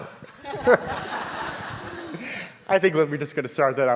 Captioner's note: audience laughing